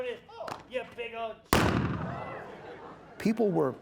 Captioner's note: gun shot